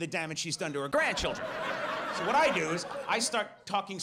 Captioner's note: audience laughs